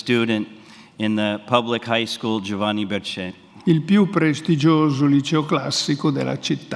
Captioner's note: speaks in Italian; speaks in Italian